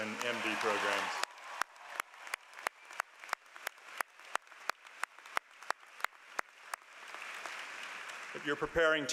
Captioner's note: applause